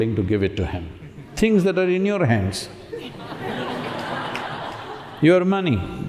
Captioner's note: laughter